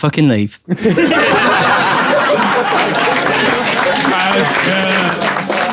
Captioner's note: people in room laughing